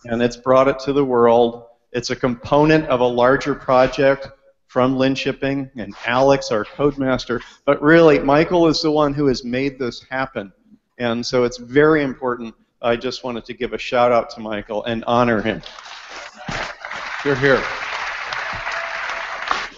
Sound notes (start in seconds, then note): 15.6 applause